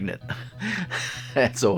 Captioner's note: laughing